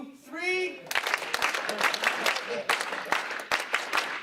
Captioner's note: clapping